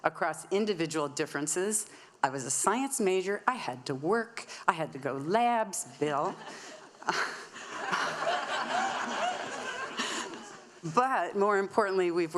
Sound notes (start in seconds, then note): 6.3 audience laughing